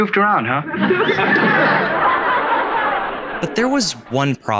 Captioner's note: audience laughing